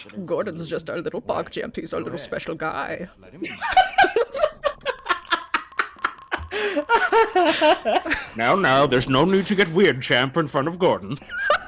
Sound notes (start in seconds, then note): 3.4 laughing